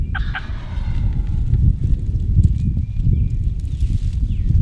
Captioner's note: hunters continue calling; turkeys gobble from very nearby; other birds chirp and trill in the distance